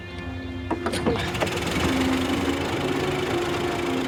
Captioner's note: engine turns